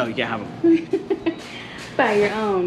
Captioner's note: giggling